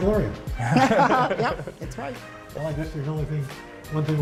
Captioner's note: laughter